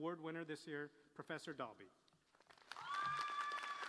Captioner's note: applause